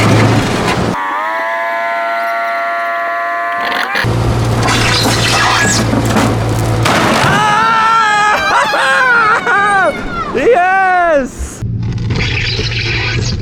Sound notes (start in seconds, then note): 6.6 wood smashing; 6.9 yelling and screaming